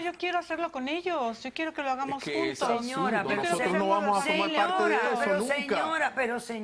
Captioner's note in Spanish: Hablan al unísono